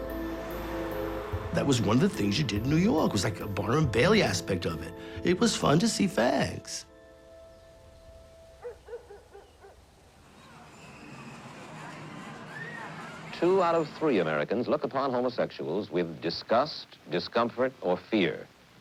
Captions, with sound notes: That was one of the things you did in New York, it was, like, the Barnum and Bailey aspect of it. It was fun to see fags. (dog barking in distance) Two out of three Americans look upon homosexuals with disgust, discomfort, or fear.